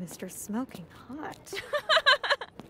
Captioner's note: laughs